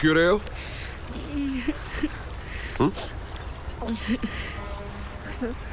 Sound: sobbing

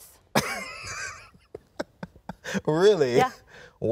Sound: laughs

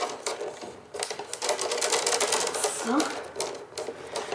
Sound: willows clatter

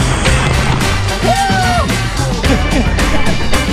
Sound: cheering

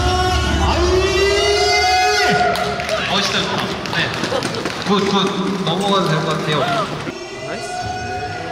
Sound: people are cheering from everywhere

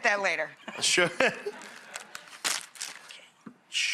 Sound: laughing

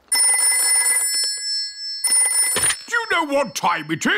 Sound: dialing; rings

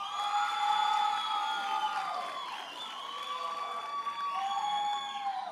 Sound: audience cheers and applauds

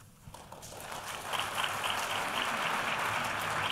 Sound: applause

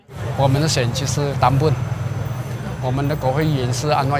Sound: in Mandarin

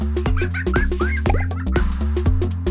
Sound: laughter

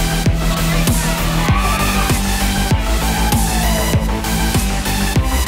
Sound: audience cheering

